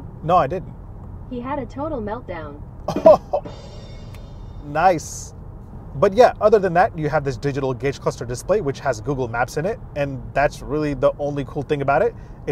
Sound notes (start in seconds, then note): 2.8 chortling; 3.1 cymbals crashing